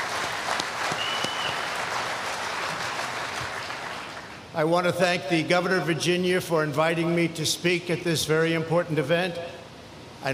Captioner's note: applause